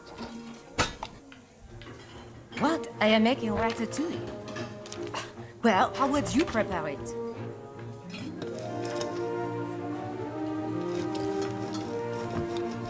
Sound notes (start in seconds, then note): 4.6 scoffs